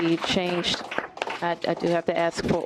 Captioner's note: applause